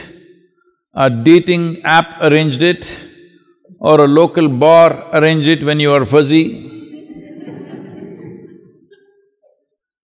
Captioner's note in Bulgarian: Смях